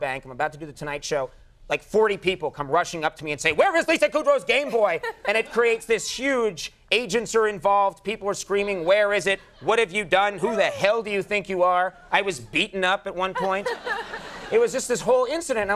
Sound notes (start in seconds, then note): 13.2 crowd laughing